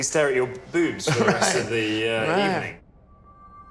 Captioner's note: laughs